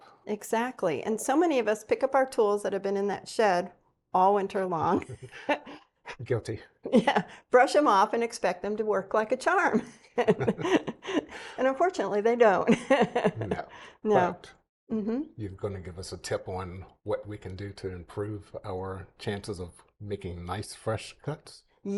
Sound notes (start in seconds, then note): 12.7 chuckles